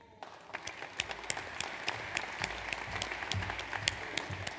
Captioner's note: audience applauds